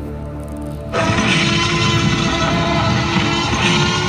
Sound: tyrannosaurus roars loudly

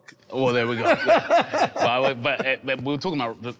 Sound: laughing amusingly

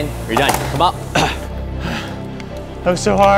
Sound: gasping for air

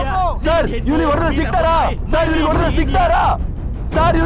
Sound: Malay Language

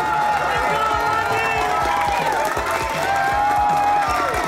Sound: crowd clapping and cheering

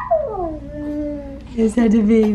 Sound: cooing

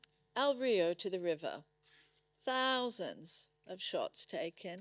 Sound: none

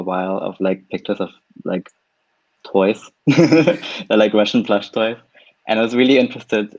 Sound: laughs

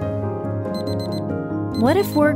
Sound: alarm clock buzzing

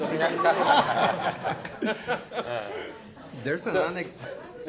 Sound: laughter

